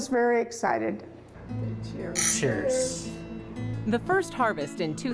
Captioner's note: clink